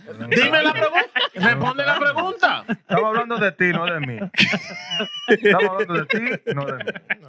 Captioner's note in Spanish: Hablando en idioma extranjero